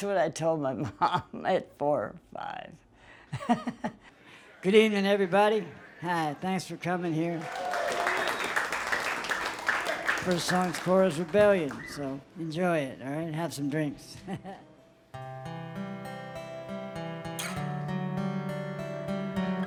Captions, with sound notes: That's what I told my mom at four or five. Good evening, everybody. Thanks for coming here. (crowd claps) The first song is "Korah's Rebellion" So, enjoy it, all right. Have some drinks. (guitar playing)